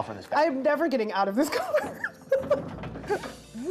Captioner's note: laughs